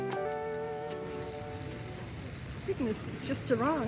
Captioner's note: sizzling